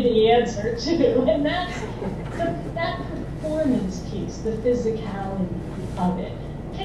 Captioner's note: laugh